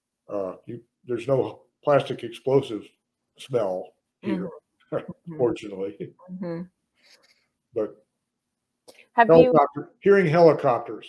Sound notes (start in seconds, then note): 5.0 laughs